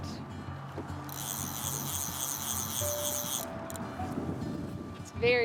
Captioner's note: fishing reel cranking